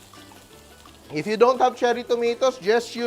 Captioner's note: sizzles